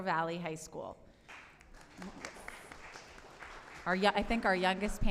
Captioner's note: applause